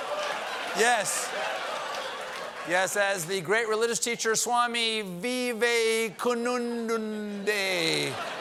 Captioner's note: laughter